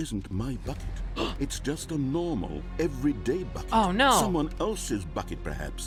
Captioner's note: gasps